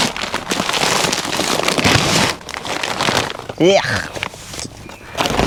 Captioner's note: flies and insects buzzing loudly nearby